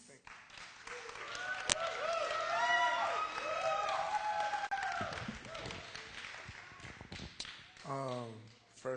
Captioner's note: applause